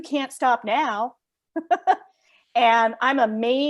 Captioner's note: laughs